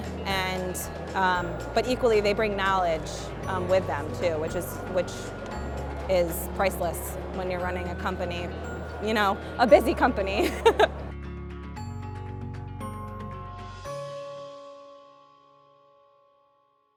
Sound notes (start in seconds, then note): 10.4 woman laughing; 10.5 gentle music